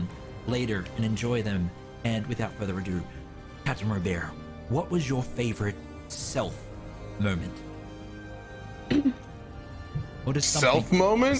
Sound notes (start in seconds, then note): 8.8 clears throat